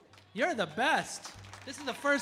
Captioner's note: audience applauding